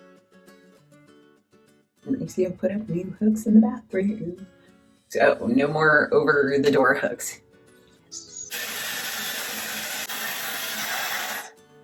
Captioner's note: hairdryer